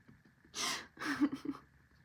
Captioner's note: laughs